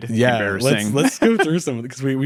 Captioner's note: laughs